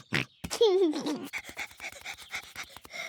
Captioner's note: panting